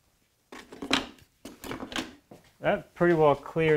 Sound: tools clinking; tools thumping

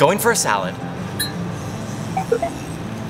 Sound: beeping noises

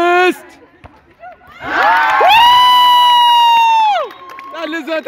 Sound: applause

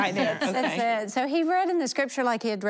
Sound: laughter

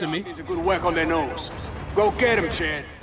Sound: man On Radio

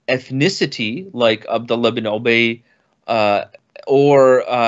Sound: speaks in foreign language

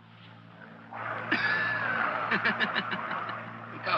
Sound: laughing

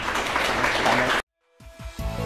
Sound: clapping; upbeat music

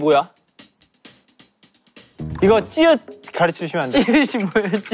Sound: mispronunciation

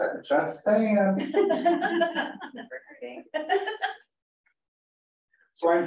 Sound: laughter

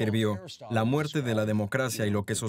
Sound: laughing

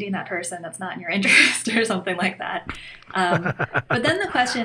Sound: laughter

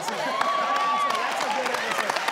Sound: audience cheers

